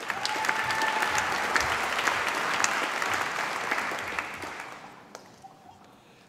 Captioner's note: applause